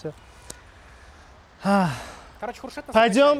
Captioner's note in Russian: вздох